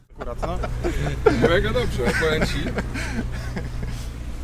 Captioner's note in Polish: śmiech